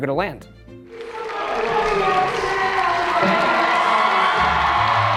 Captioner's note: audience cheering